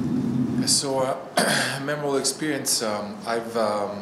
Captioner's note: clears throat